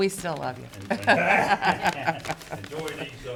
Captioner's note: people laughing